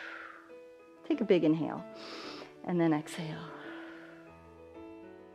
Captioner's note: exhales